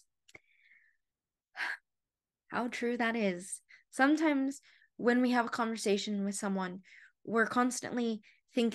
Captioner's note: sigh